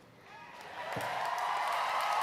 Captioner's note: applause